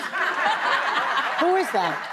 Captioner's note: audience laughing